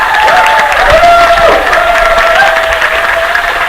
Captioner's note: applause